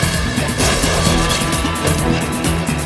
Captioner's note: clunking